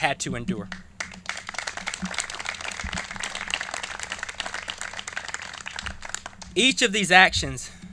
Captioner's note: clapping